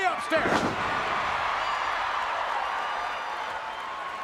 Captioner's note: crowd cheering